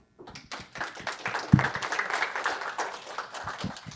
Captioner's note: audience applauding